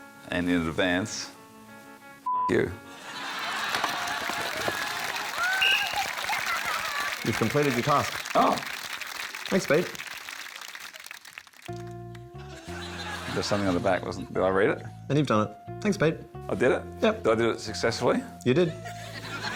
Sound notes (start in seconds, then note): 3.3 applause; 5.4 blows whistle